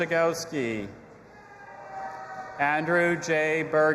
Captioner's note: audience applauding and cheering